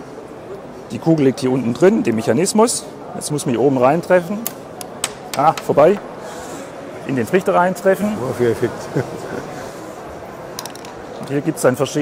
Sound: laugh

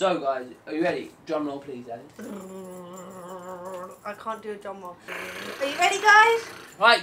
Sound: tries to make a drum roll sound

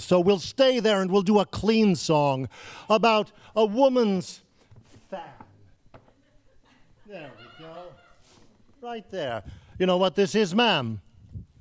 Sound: laughing

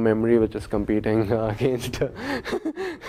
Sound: laugh

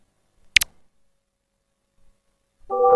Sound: futuristic click, followed by some silence

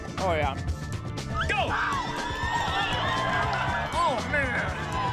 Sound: crowd cheering

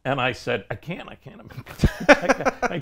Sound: laughs

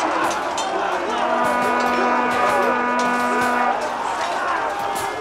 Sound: horn sounds

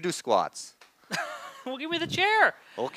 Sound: laughs

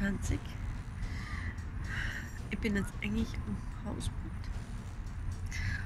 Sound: sigh

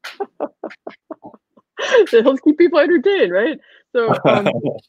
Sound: laughing; laughing

